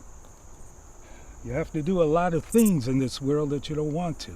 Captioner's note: sighs